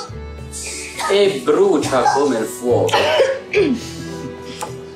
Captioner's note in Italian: Dalia e Shiran tossiscono